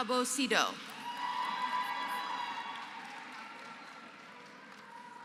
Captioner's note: applause